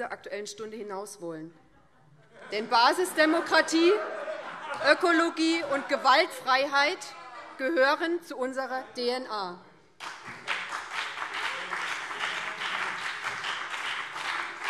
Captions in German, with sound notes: Aktuellen Stunde hinauswollen. [Lachen SPD und Freie Demokraten] Denn Basisdemokratie, Ökologie und Gewaltfreiheit gehören zu unserer DNA. [Beifall BÜNDNIS 90/DIE GRÜNEN und vereinzelt CDU]